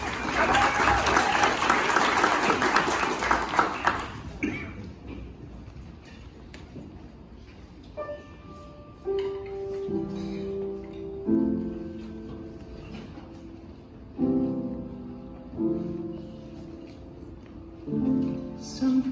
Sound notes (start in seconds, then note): 0.0 audience claps; 4.3 cough